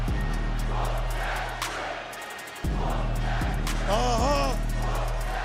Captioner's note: crowd "whoop that trick"